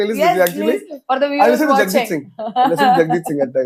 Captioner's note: laughs; laughs